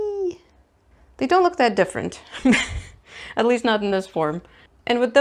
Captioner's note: laughs